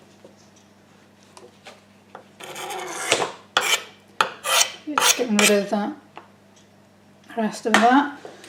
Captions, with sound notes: (scraping) Just getting rid of the rest of that